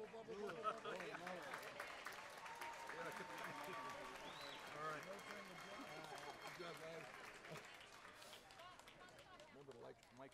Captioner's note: applause